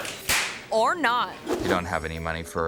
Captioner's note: hands clap